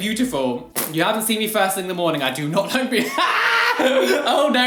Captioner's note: laugh